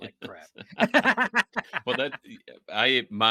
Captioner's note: laughing